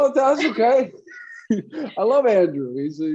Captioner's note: laugh